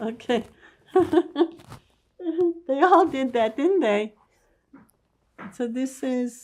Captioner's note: laughing